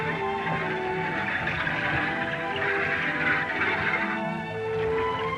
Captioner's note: wheels creaking